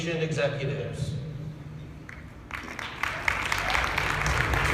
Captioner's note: applause